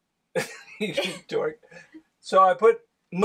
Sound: chuckles

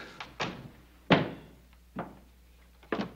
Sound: door closes, footsteps approach

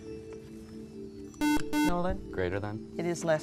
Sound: buzzer

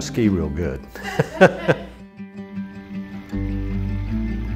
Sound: laughter

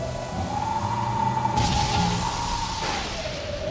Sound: thunder crashing

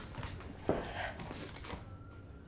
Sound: sobs and sniffs

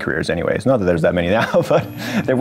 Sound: chuckles

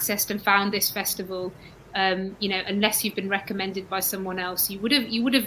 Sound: erm

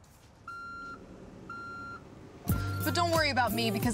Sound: car beeping

